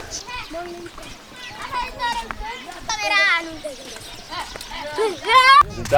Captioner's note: children in the background